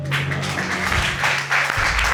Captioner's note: audience applauding